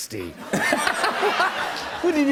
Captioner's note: laughter